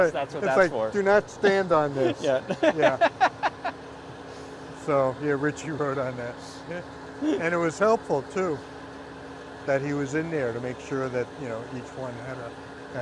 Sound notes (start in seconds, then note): 2.0 laughs